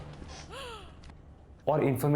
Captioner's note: woman gasps